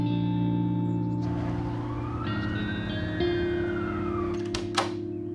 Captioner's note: siren sounds are heard; door opens, music stops